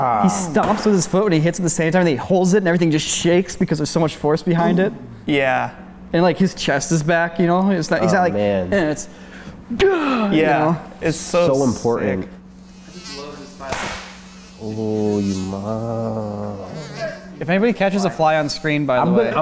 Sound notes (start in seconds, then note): 8.2 grunts; 12.5 fly buzzing; 13.6 smack